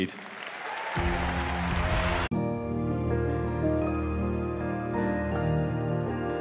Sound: applause, cheering

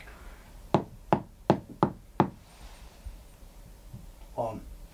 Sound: knocks on ceiling

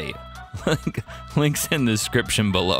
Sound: laughs

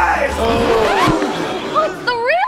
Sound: gasps

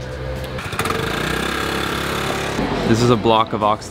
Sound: engine revs

